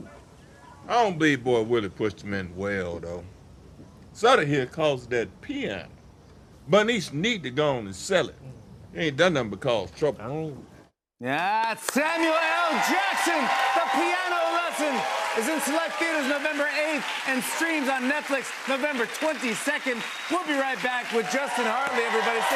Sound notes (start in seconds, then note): 12.6 cheers and applause